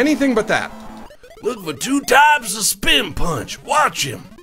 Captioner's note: gravelly voice